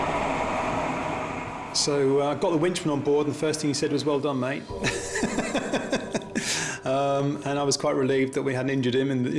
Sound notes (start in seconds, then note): 4.8 laughs